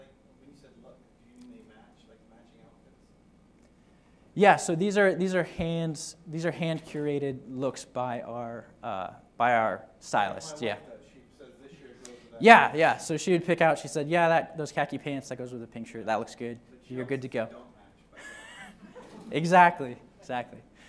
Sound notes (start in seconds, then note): 18.1 laughter